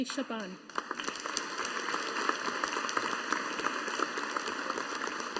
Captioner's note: audience applauding